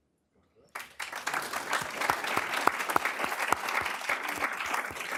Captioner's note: applause